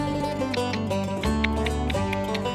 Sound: clucks

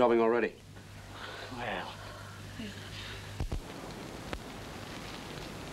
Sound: relieved sighs

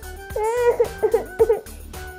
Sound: sob...sob!

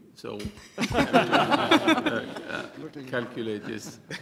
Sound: laughter

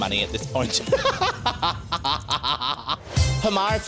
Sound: laughs

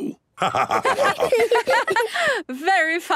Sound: laughter

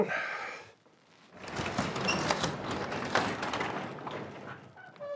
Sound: door rattles open

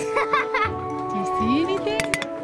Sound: laughing; voiceover

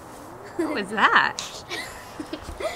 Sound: voiceover

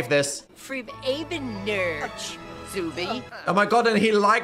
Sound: speaking Simlish

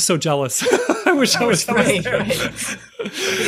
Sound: chuckle

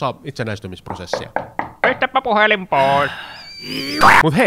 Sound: knocking

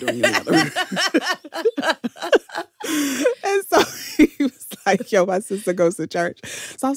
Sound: laughter

